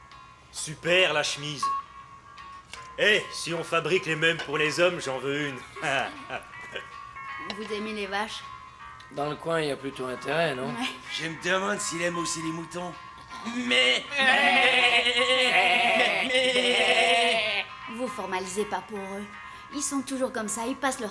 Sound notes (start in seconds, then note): 5.5 chuckling; 13.4 imiming the bleating of sheep